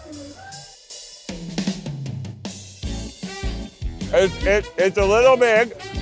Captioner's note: people chattering faintly